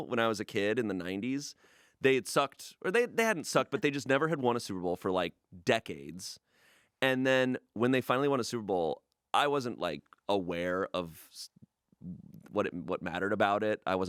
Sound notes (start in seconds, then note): none